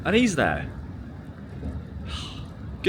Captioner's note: sighs